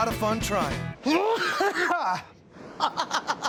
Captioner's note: coughs hard; laughs